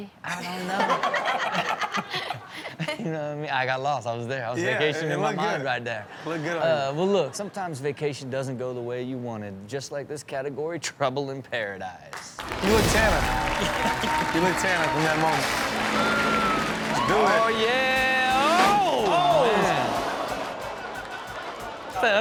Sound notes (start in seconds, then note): 0.6 everyone laughs; 12.5 audience cheers; 12.5 upbeat rock music; 18.5 audience gasps